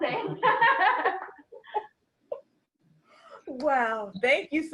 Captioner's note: laughter